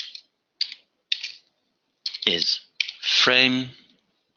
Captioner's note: typing